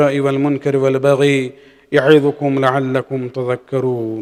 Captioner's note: arabic